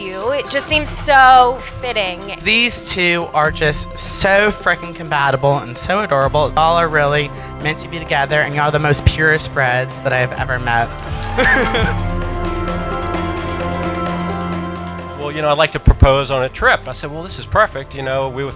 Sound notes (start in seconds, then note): 11.0 laughing; 13.1 soft music